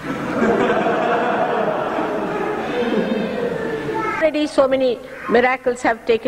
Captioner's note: laughter; हँसी